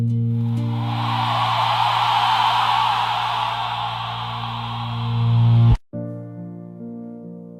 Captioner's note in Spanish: grito